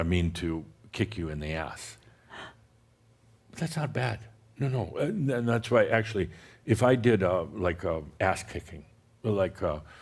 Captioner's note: gasps